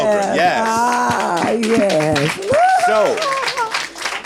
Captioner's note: audience clapping